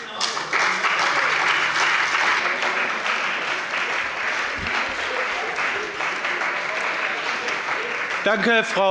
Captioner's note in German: Beifall bei BÜNDNIS 90/DIE GRÜNEN und der CDU